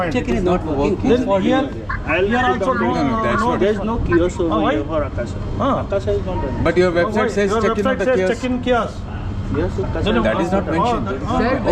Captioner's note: people chatter